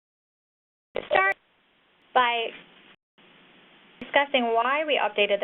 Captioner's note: audio skips